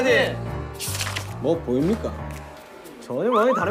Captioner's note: mysterious footstep